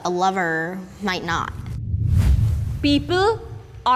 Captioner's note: air whooshes